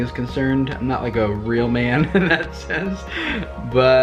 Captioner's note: laughs